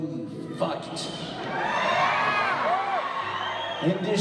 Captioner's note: audience cheers